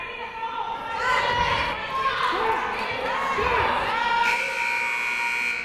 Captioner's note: people shouting in the crowd; buzzer ringing